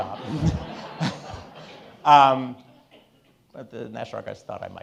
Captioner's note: all laughing